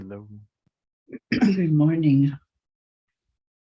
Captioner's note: clears throat